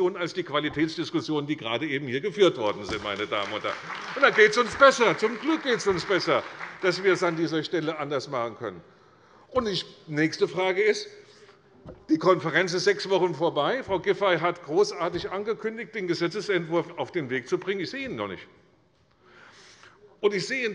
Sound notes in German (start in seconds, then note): 2.6 Beifall bei der CDU und dem BÜNDNIS 90/DIE GRÜNEN